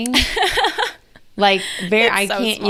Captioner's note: laughing